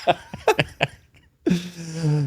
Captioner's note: both laughing